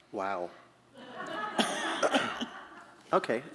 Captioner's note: laughter